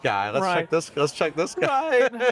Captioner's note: laughs